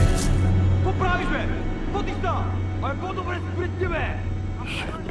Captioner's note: man shouts; shouting continues; whispers